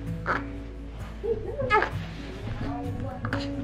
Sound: baby babbling

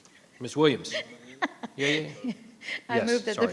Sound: person laughing

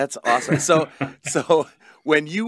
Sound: laughs

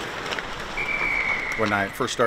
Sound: whistle blows

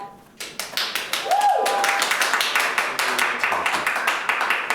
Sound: audience applauds

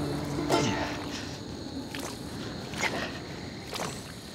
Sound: squelching

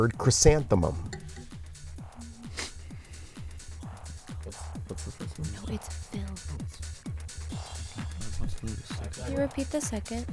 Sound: whispering

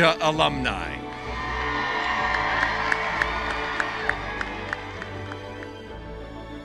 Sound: cheering and applause; music fades out

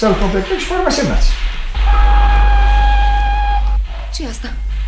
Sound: the train whistles

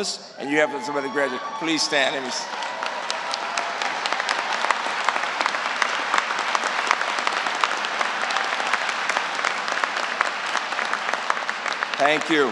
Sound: applause

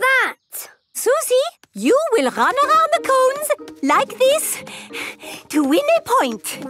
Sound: panting

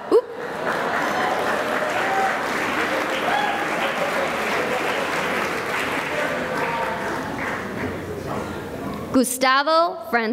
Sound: applause

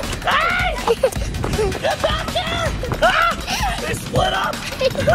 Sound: screams

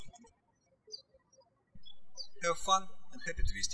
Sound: birds chirping

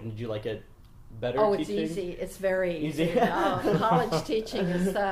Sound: interviewers laugh

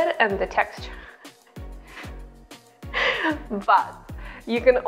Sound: laughing

